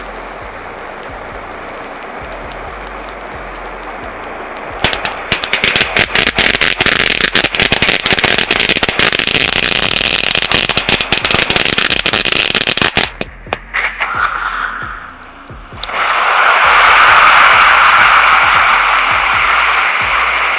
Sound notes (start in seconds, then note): 5.0 fireworks popping; 16.5 firework wheel whirls loudly